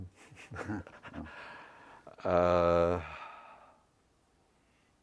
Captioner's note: laugh